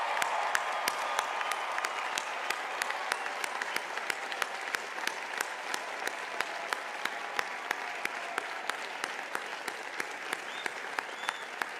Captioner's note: cheers and applause